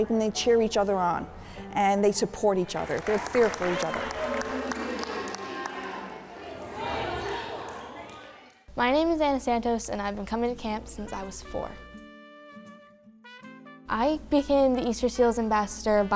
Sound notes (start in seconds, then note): 4.2 applause